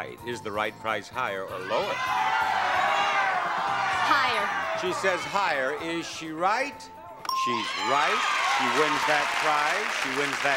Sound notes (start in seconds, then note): 1.7 audience clamoring; 7.2 bell dings; 7.4 audience cheering